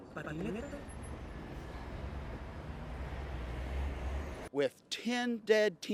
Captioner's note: traffic whirring